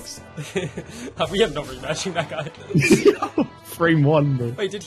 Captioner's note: laughing